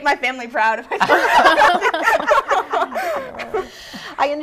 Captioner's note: laughter